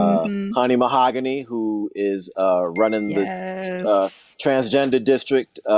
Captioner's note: ding sound